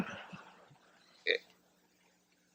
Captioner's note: laughter